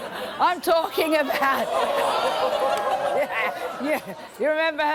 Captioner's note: crowd laughing